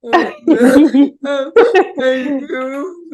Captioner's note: both chuckling